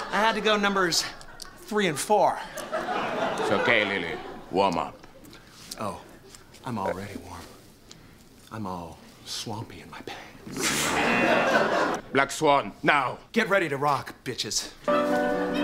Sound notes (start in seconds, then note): 10.8 buzzer; 10.9 laughs